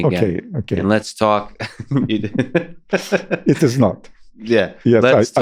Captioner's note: laughs